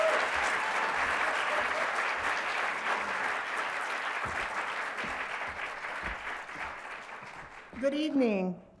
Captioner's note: applause